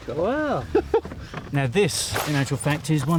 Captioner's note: Tony laughs